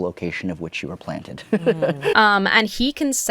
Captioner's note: chuckles